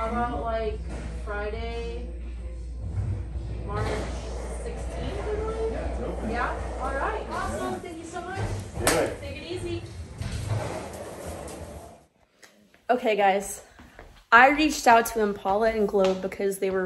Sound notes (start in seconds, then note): 8.8 hands clap